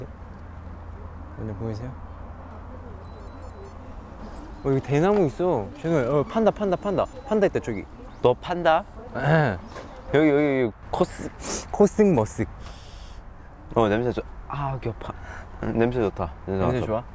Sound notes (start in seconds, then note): 11.3 sniffles; 12.6 sniff